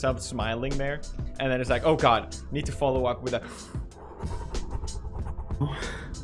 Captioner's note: slow exhale